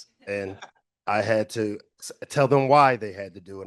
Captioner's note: everyone chuckling